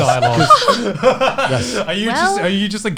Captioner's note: laughs